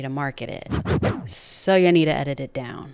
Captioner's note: record skipping